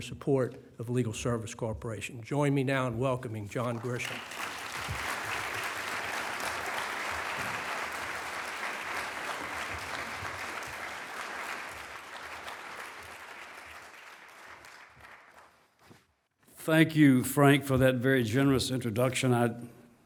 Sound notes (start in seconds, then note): 15.5 applause